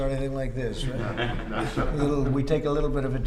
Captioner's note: laughter